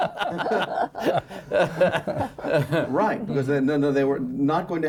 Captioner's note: laughing